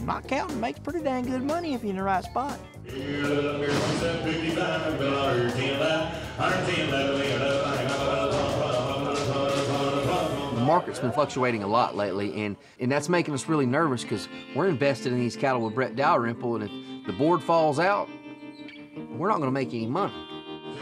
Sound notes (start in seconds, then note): 2.9 auctioneer speaking rapidly